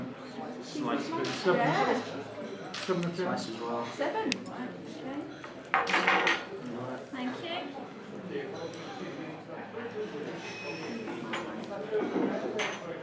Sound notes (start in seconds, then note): 2.7 silence - clicking of cameras